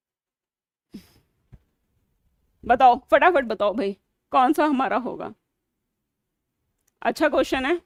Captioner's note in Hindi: नाक से की जाने वाली आवाज़